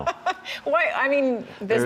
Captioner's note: laughter